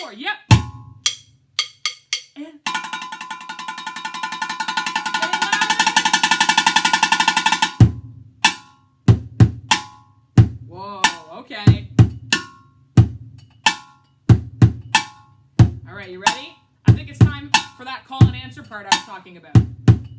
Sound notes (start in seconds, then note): 0.5 bangs drum; 1.0 clinks drumsticks together; 1.5 drumming; 6.1 drumming louder; 12.4 drumming